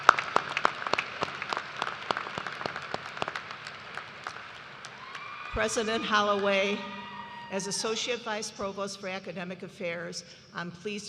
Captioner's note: applause